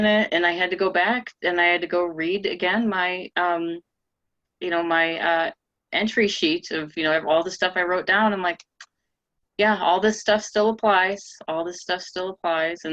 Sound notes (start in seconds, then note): none